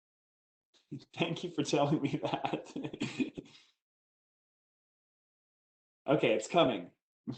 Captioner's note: laughs